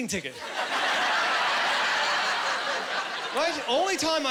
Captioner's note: laughing